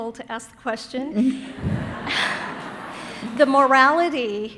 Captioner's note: audience laughing